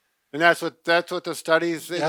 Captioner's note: murmur